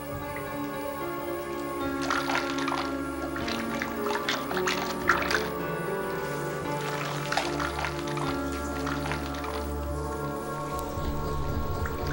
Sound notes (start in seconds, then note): 2.5 suspenseful music; 2.5 water running